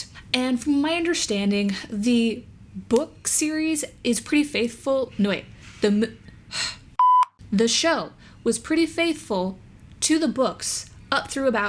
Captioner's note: beep